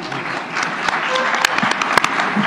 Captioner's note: applause